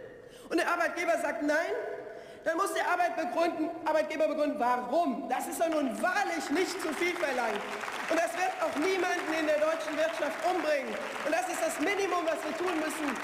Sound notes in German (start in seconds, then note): 7.4 Beifall